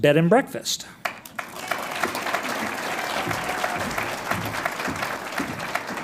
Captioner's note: audience applauds